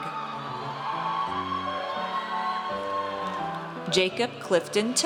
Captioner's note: audience cheers